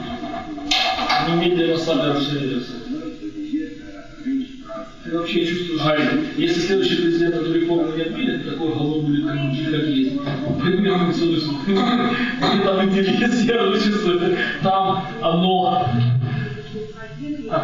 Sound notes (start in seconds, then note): 15.0 laughs